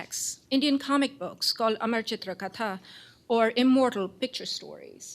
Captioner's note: non-english